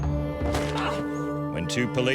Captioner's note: moaning